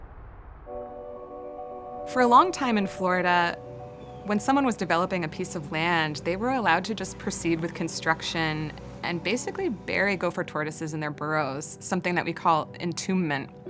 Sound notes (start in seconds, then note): 4.3 construction sounds